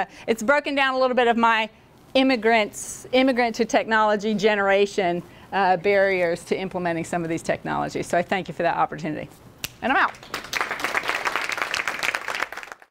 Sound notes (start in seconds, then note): 9.6 snaps fingers; 10.2 applause from audience